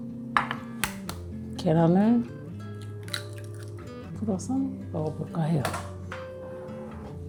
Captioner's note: beating the egg